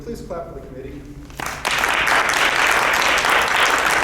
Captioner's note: clapping